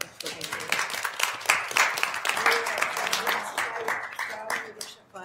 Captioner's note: applause